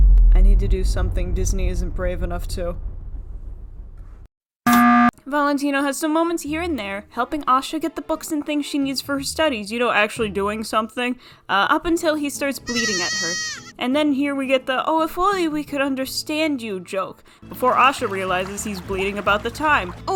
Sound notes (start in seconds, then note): 4.6 bwomp!!